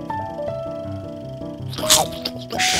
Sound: chomping

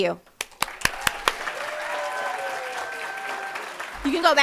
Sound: audience applauding and cheering

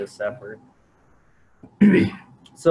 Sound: clears throat

